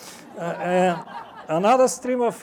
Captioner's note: audience laughs